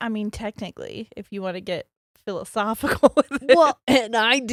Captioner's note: giggles